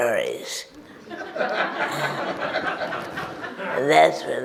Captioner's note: audience laughs